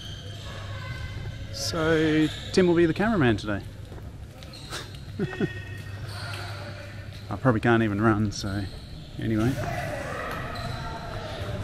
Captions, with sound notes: So, Tim will be the cameraman today (Laughing) I probably can't even run, so anyway